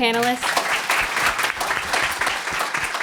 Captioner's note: applause